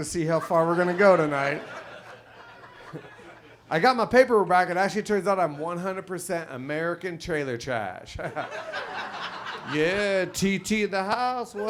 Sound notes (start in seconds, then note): 8.1 chuckles; 8.2 audience laughs